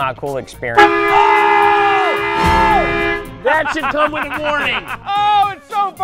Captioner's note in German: shouting